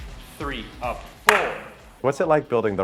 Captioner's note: claps